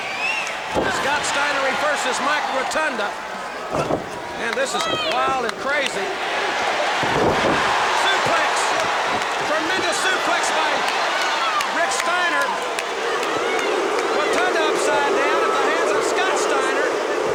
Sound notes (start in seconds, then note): 2.7 audience cheers; 9.0 audience cheers